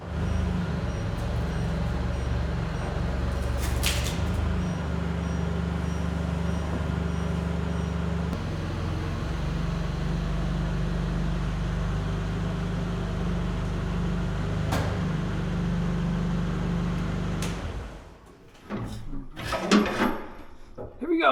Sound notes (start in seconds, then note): 0.1 engine roaring; 0.1 forklift beeping; 8.5 engine roaring; 14.8 engine roaring; 14.8 metals clanking